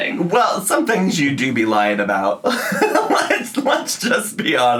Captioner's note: laughs